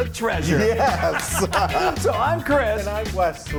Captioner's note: laughing